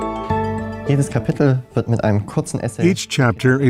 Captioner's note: non-english speech